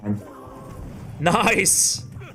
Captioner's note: game sounds